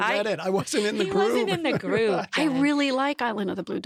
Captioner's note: laughs